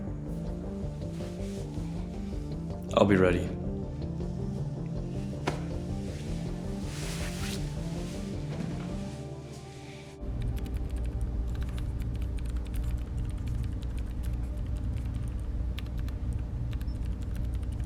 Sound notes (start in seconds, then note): 0.2 tense music; 4.8 tense music; 11.5 computer keys tapping